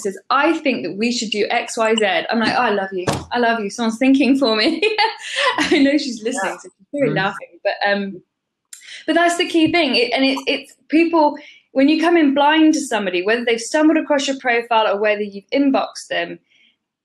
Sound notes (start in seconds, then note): 6.2 laughs